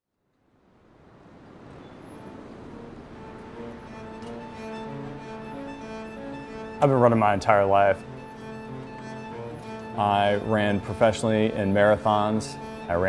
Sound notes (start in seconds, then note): 0.8 wind blowing; 2.3 dramatic orchestra music